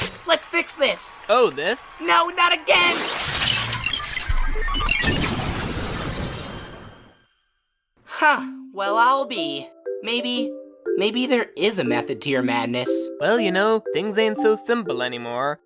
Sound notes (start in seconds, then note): 2.7 electricity charges; 4.3 machine whirs; 5.0 electrical zap